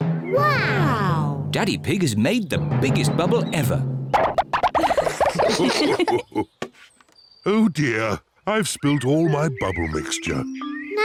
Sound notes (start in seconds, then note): 4.6 all laugh